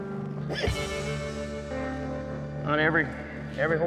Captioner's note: horse squeals